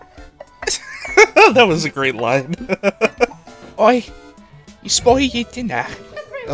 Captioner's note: giggle; chuckle